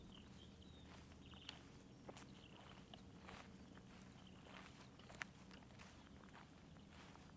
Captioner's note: footsteps crunching